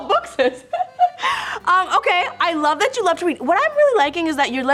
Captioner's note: laughs